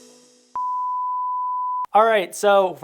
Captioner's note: high-pitched tone beeping